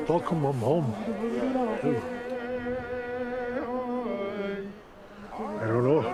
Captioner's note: people chanting in foreign language